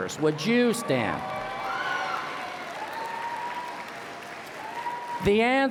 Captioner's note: applause and Cheering